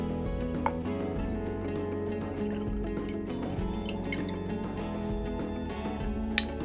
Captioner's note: sound of pouring alcohol